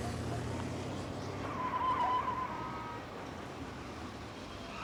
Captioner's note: tires screeching